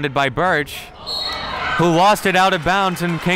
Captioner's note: referee blows whistle